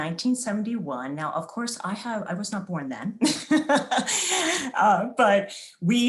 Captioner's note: laughs